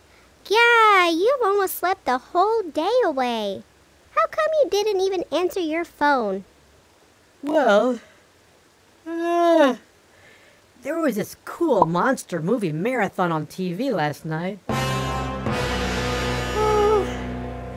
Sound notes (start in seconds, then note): 9.0 yawn; 16.5 yawn